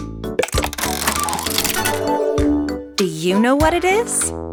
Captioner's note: mechanical whirring